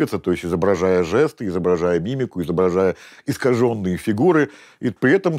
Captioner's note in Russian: none